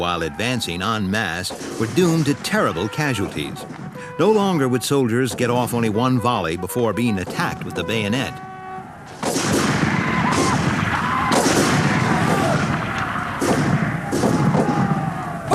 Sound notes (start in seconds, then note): 9.1 guns bang; 9.7 shouting